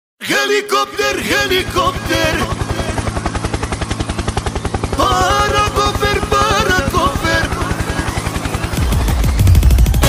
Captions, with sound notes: HELIKOPTER HELIKOPTER *helicopter sound effects* ??? *music intensifies*